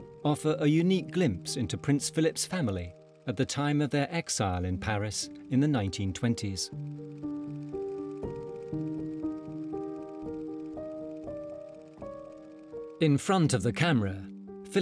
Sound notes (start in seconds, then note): 6.7 dramatic music; 6.7 camera flickering